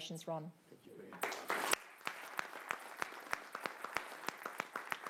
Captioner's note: clapping